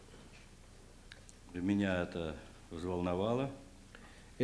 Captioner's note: non-english speech